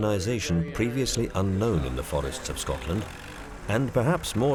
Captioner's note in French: bruits de tracteur